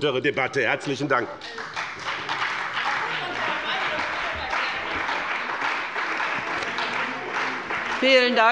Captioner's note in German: Beifall bei dem BÜNDNIS 90/DIE GRÜNEN und der CDU